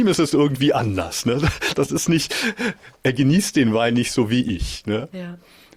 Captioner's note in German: gelächter